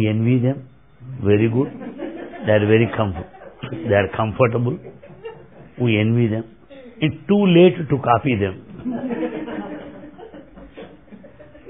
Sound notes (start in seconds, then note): 4.4 laughter